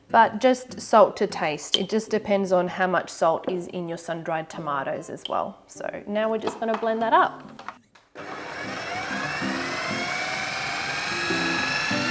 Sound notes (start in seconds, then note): 8.1 blender whirring